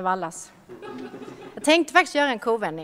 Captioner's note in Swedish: Skratt